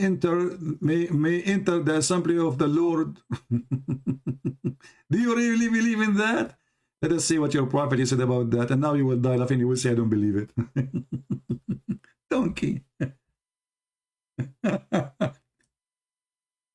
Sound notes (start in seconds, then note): 3.2 Ketawa